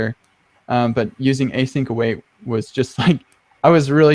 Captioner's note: laughs